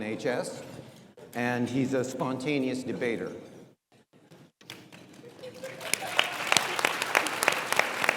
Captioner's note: audience applauds